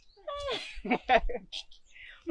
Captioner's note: laughs